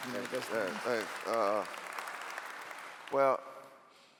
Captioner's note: clapping